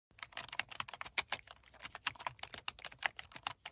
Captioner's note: keyboard typing